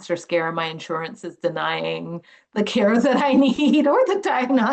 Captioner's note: laughing